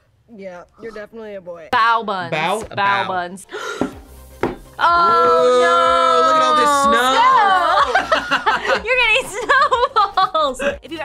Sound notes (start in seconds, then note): 3.5 gasps; 6.6 group laughs; 10.5 laughs